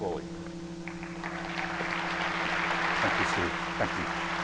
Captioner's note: audience applauding